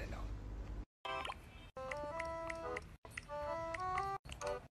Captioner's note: typing sounds